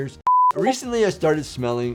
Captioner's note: beeps